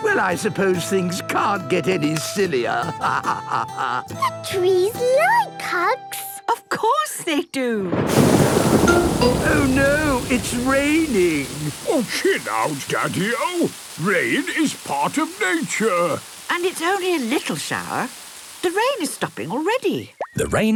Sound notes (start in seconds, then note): 2.9 laughing; 7.9 thunder booming